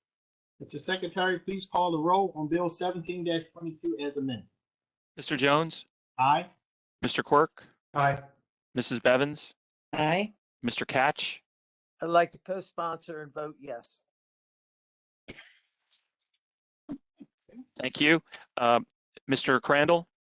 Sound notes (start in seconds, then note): 15.3 laughter